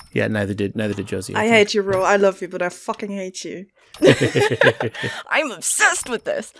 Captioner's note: laughter